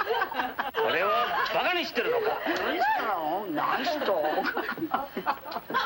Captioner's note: speaking foreign language